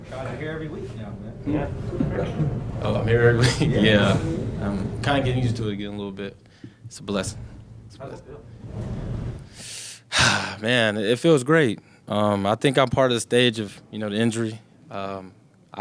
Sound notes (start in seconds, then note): 1.4 interviewer laughs; 3.3 laughs